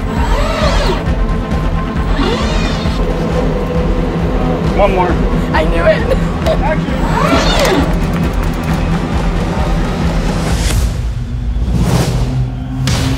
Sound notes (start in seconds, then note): 0.0 machine whirs; 3.3 dramatic music builds; 5.6 laughs; 6.9 machine whirring; 8.3 dramatic music builds; 10.6 dramatic sting; 12.9 dramatic music builds